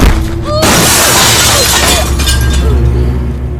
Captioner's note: mirror shatters